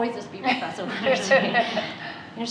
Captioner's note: laughter